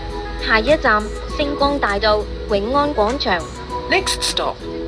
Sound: Cantonese

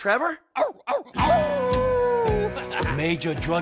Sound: Trevor howling

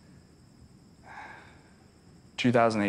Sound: sighs

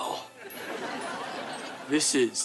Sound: laughing

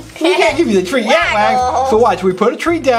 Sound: The Assistant Laughs

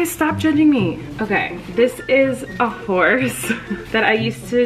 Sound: laughing

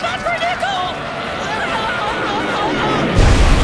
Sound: screaming

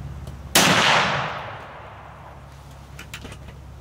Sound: bang!!!

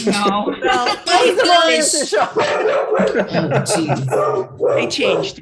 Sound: laughter, Multiple Speakers

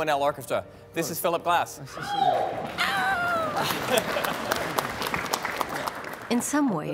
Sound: cheering

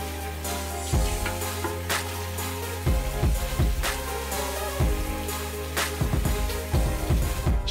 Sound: water Running

